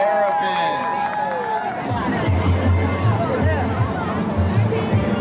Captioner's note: applause